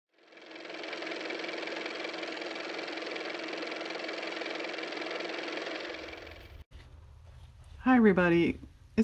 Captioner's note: car motor